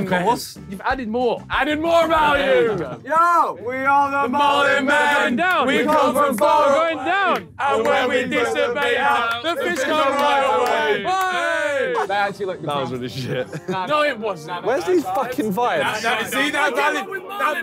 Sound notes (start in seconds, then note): 10.0 yells